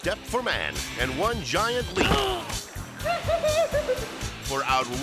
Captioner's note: man groaning; man giggling